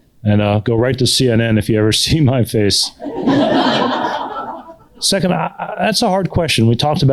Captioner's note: laughter